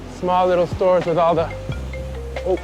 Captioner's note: phone rings